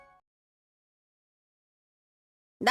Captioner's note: silence